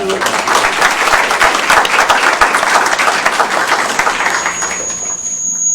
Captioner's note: applause